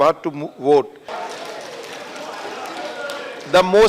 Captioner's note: applause